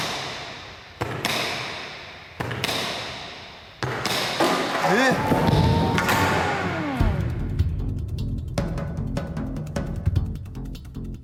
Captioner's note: siren sounds